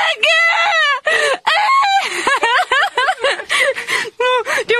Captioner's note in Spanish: Llanto épico